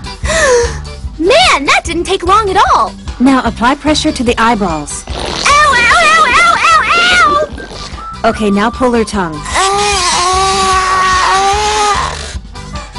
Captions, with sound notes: (Osaka exhales) Man, that didn't take long at all. Now, apply preasure on the eyeballs. (Osaka yells in pain) Okay, now pull their tonge. Uuuuuuhhhhhhh.